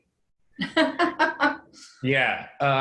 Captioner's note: laughs